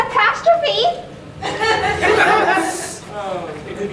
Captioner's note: audience chuckling; laughing awkwardly